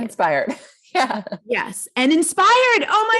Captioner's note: laughs